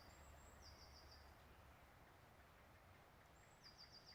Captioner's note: birds singing